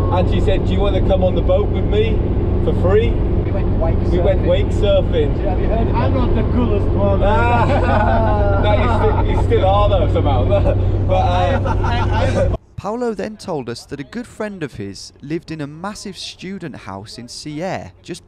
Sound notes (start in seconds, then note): 7.2 everyone laughing; 11.2 laughing